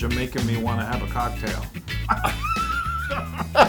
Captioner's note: laugh